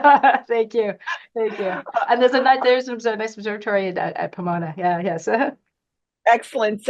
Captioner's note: laughs; laughs